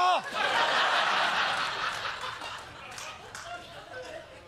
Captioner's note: laughter